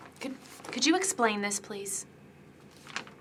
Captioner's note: none